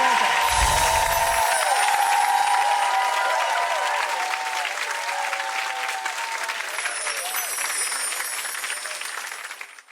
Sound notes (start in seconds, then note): 0.0 audience cheers; 6.8 gentle chimes